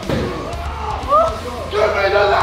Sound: cheering

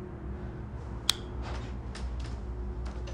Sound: light switch

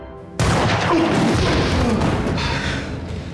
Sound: gun fires; Dr. Deaton groans; group breath heavily

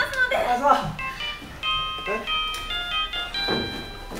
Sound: phone rings

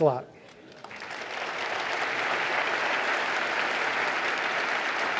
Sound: audience applauds

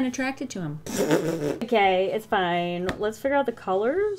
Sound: laughs

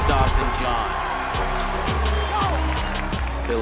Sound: crowd cheering

